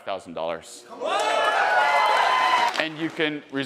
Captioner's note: audience cheering